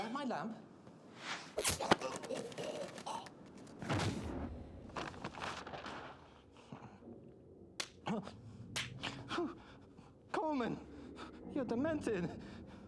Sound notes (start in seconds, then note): 1.6 choking; 7.9 smacking